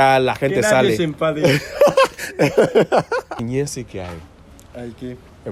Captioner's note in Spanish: Risas